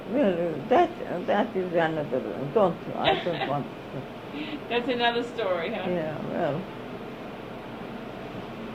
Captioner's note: laughs